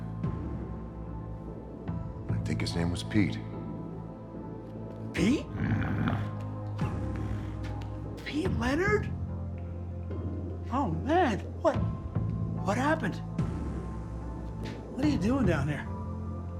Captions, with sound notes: - I think his name was Pete. - Pete? (Pete growls) Pete Leonard? Oh man. What, what happened? What are you doing down here?